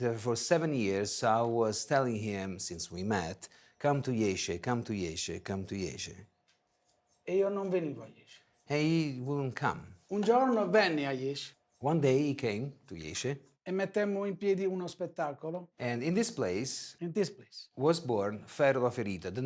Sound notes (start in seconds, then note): 7.0 speaking foreign language; 10.3 speaking foreign language; 14.1 speaking foreign language